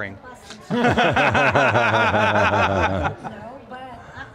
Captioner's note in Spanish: risas del grupo